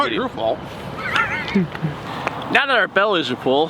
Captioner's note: laughing